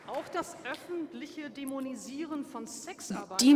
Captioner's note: applause